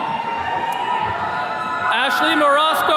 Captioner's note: attendees cheering